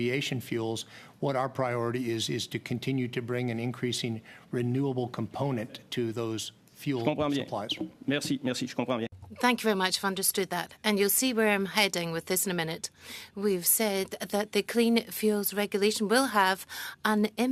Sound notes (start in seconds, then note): 6.3 speaking French